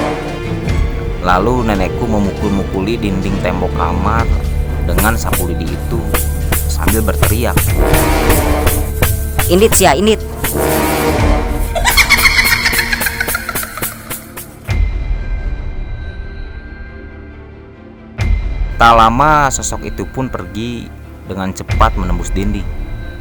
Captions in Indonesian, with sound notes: lalu nenekku memukul-mukuli dinding tembok kamar dengan sapu lidi itu sambil berteriak "pergi !" (suara ketawa) tak lama sosok itupun pergi dengan cepat menembus dinding